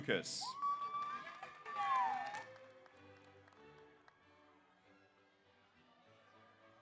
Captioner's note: audience cheers; audience applauds